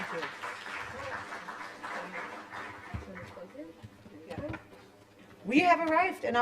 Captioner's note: applause